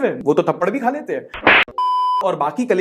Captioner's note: slap; beep